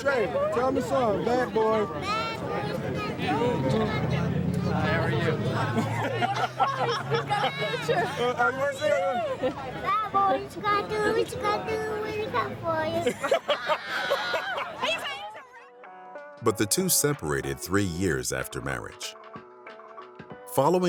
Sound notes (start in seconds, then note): 7.7 Will laughs; 7.7 interviewer laughs; 15.1 Will laughs; 15.1 interviewer laughs